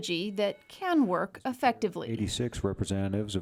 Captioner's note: bell chimes